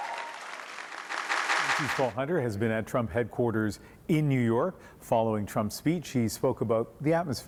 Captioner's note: cheering